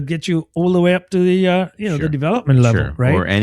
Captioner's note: uh